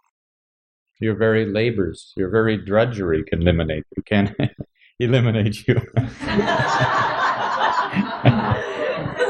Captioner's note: laughter